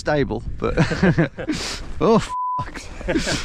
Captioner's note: both laughing; upbeat music